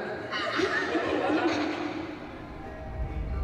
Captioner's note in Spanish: Risas